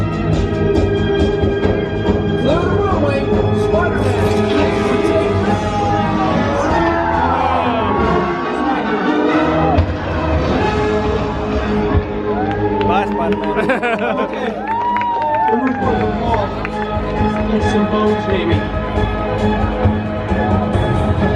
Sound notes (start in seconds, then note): 0.1 dramatic orchestral music; 3.0 Spider-Man's voice distorted; 5.5 Spider-Man howling; 6.0 dramatic orchestral music; 13.3 laughs